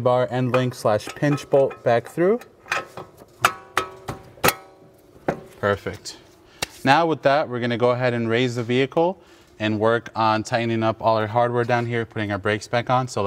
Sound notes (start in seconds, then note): 2.5 metal clanking